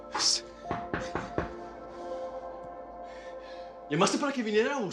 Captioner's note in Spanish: Toques en la puerta